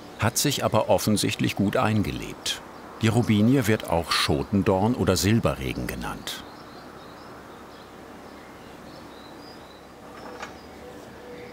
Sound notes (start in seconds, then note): 6.5 soft chirping of birds; 10.0 quiet rattling